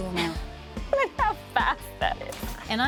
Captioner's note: laughs